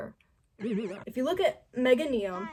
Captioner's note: warbled aAeAeHh